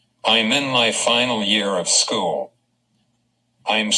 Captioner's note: voiceover